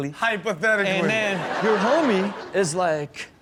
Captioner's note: audience laughs